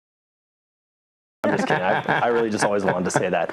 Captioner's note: laugh